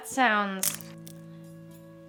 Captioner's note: arrow snapping